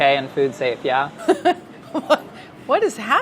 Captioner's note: laughing